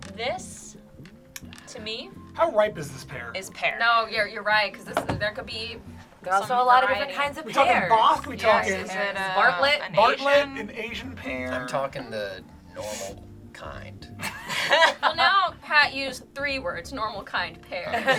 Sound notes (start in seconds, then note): 14.2 group laughs